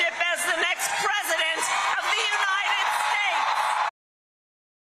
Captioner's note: cheers and applause